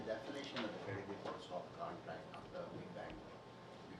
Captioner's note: speaking faintly